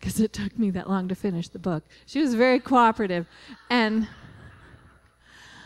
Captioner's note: laughter